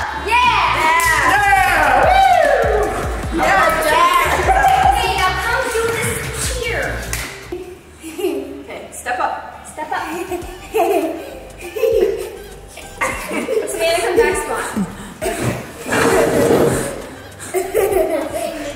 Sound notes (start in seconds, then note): 5.2 people mumbling; 7.2 giggling; 12.7 laughing; 13.8 mumbling; 14.8 giggling